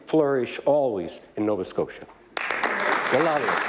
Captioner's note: applause